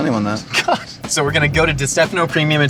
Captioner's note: laughs